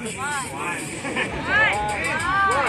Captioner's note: laughs